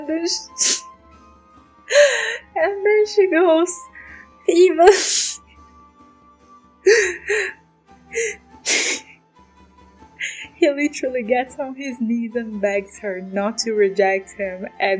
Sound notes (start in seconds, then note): 10.2 laughs